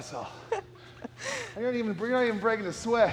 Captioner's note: Sol chuckles